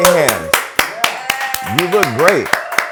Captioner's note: applause